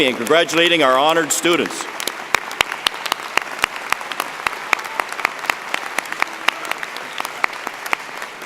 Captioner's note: applause